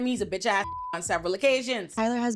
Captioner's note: beep